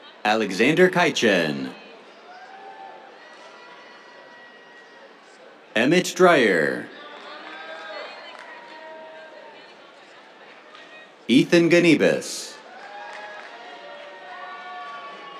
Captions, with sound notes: Alexander Caichen. [CHEERS] Emmett Dreyer. [CHEERS, APPLAUSE] Ethan Gnibus. [CHEERS, APPLAUSE]